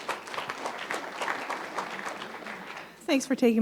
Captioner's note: applause